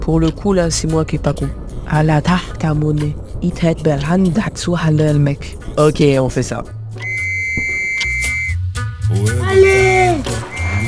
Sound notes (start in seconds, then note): 2.7 speaks Arabic; 7.0 whistling